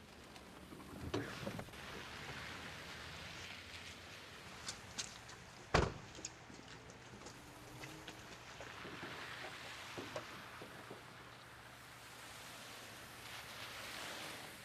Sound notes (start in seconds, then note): 0.0 rain pattering